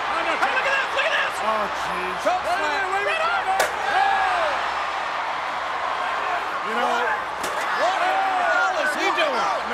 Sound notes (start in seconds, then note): 3.6 chair thuds; 7.2 chair thuds